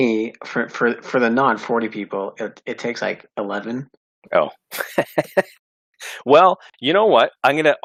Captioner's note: laughs